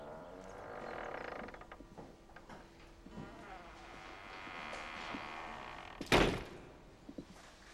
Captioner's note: door creaks